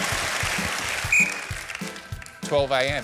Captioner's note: applause; whistle blows